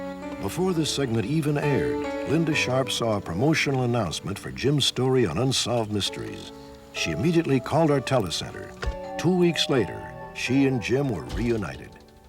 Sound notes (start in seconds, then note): 9.0 doorbell